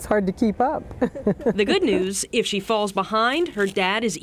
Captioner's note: laughs